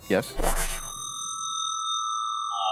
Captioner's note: shrink ray zaps